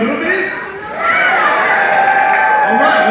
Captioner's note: cheering